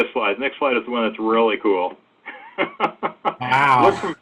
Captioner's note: laughs